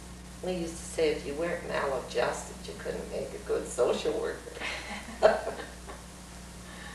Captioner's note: laughter